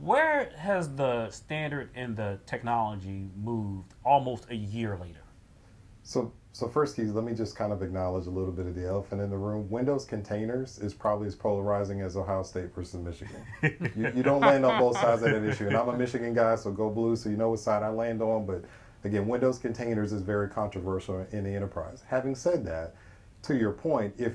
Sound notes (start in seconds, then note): 13.2 laughing